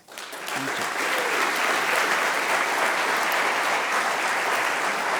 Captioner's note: audience clapping